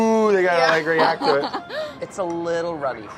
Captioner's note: laughing